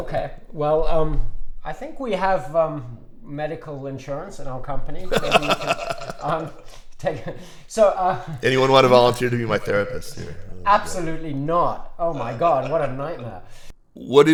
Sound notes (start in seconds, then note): 5.0 laughs